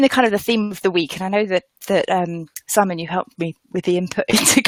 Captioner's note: laughs